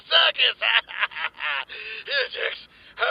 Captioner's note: laughs